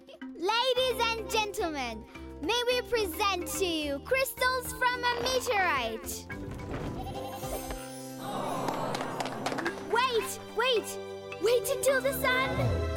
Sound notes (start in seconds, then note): 6.9 bleating; 8.2 crowd; 8.3 applause